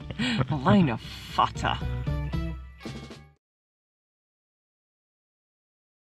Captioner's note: laughs; speaks Gaelic